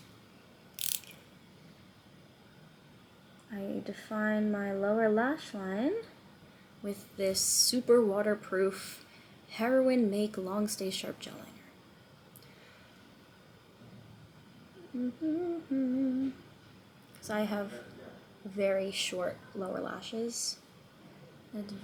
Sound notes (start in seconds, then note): 14.8 humming